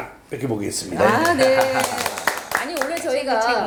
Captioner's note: clap clap